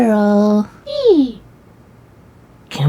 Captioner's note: happy Vixen noises